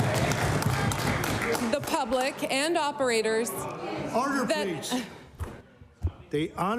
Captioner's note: applause